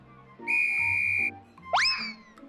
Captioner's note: tweet